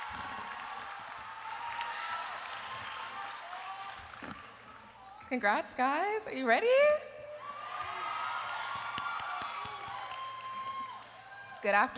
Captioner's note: cheers and applause